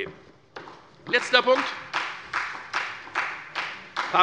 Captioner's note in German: Beifall bei der FDP